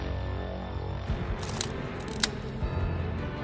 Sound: shutter sounds

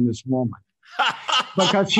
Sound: laughs

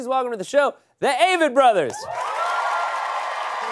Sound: crowd applause

